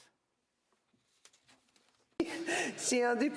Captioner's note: speaking french